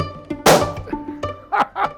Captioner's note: balloon pops; laughs